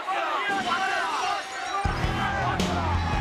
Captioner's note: glass shatters; brooding rock music